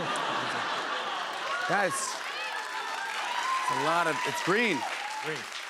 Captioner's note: laughter; cheers and applause